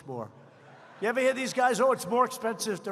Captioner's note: laughter